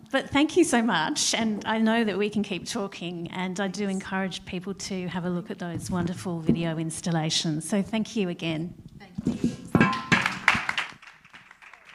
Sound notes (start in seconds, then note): 10.0 applause